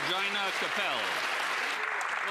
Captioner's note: applause